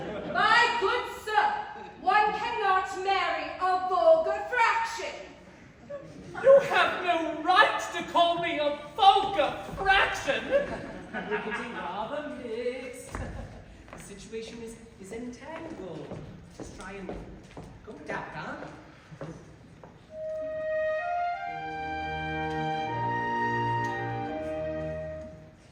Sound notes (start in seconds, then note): 10.4 laughter